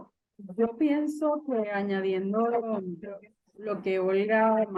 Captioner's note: speaking Spanish